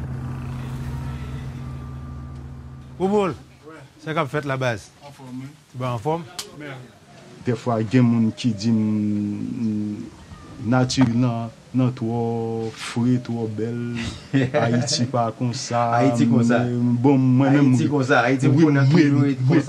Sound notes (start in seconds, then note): 13.8 laughing